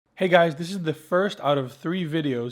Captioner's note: voiceover